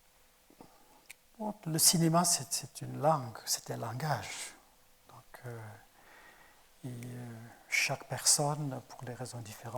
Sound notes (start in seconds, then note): 1.6 speaking in French